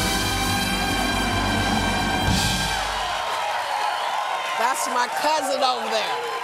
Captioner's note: applause